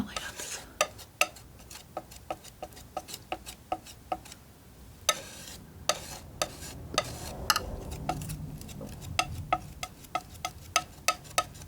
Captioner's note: scratching